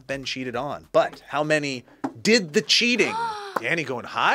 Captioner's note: gasps